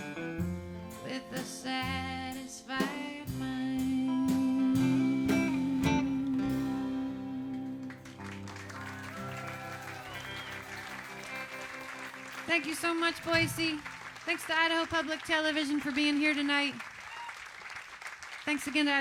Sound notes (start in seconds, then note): 5.3 applause and cheering